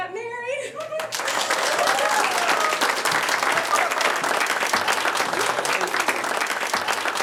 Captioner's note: group clapping; group cheering